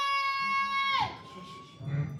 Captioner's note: police sirens